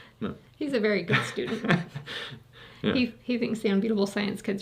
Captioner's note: laughing